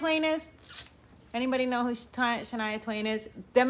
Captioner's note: sucks teeth